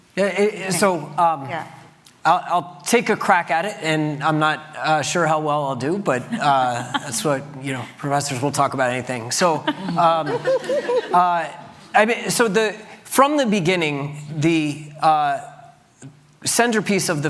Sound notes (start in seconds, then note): 9.4 laughter